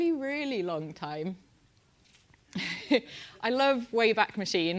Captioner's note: laugh